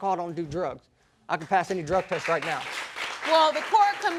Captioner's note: audience applauding